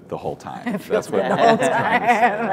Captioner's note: laughs